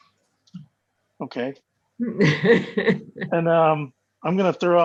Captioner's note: laughs